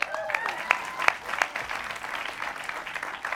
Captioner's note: applause